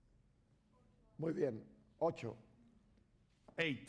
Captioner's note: speaking spanish